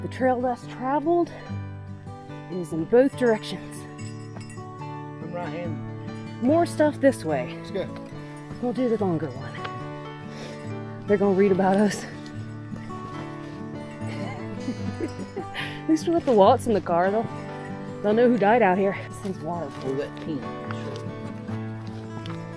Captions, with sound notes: The trail less traveled, is in both directions. I'm right handed. More stuff this way. Let's go. Good, we'll do the longer one. They're going to read about us. [laughing] At least we left the wallets in the car, though they'll know who died out here. This needs water for... hold that.